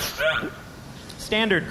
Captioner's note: slobbering noises